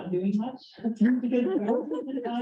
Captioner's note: chuckling